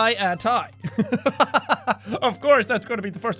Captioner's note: laugh